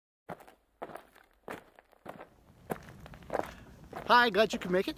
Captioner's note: gravel crunches